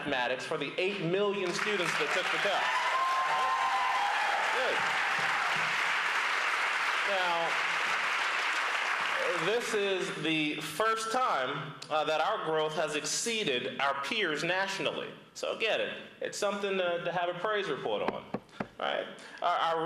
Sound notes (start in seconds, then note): 8.2 applause